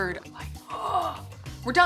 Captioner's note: groans